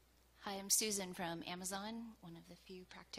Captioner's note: voiceover